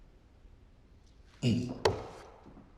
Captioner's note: taps banister; footsteps